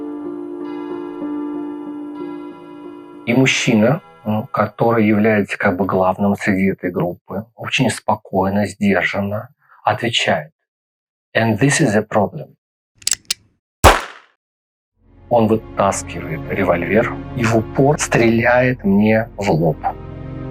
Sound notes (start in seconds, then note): 13.8 gunshot sound